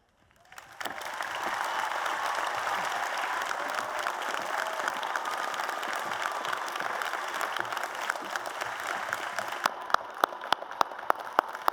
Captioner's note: applause and Cheers